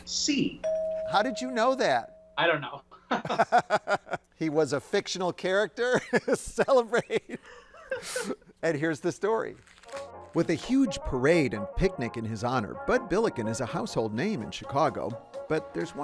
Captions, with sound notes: - How did you know that? - I don't know. (both laughing) He was a fictional character. Celebrate. (laughing) And here's the story. With a huge parade and picnic in his honor, Bud Billiken is a household name in Chicago, but there's one problem.